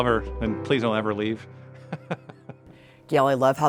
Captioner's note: laughs